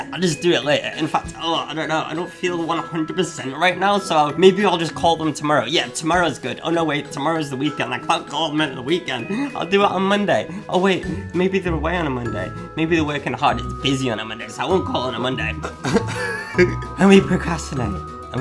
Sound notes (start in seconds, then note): 15.4 laughs